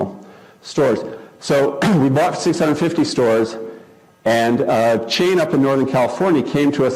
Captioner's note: cough